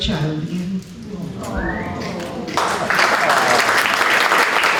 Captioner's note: applause